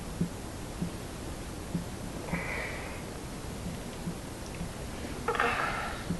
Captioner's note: sigh